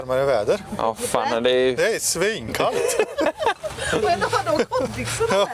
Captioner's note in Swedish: skratt